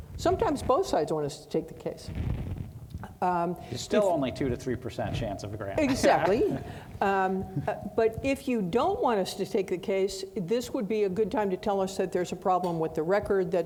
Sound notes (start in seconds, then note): 5.8 laughing